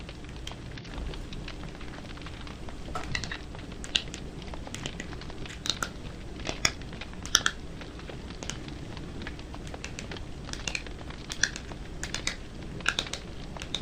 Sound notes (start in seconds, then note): 2.9 gentle tapping